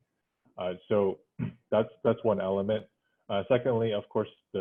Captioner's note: cough